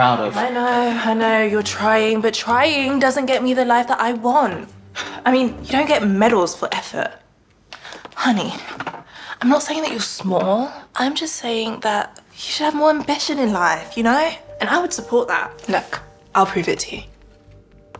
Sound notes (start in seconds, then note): none